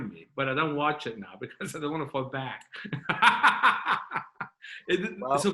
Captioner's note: chuckling